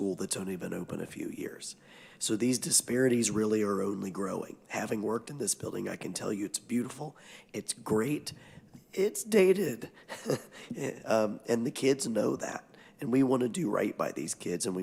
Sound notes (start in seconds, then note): 9.9 chuckles